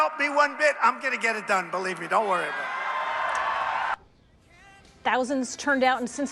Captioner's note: cheers